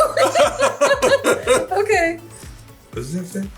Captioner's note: laughing